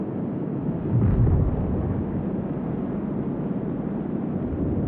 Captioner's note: wind blowing